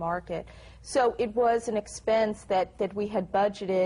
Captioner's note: none